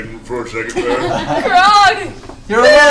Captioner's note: all laugh